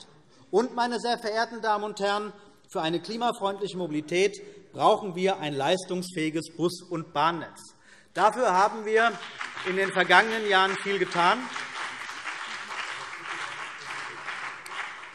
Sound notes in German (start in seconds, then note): 8.2 Beifall CDU und BÜNDNIS 90/DIE GRÜNEN